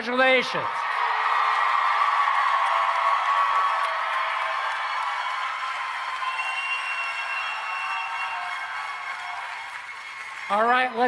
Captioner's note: applause and Cheering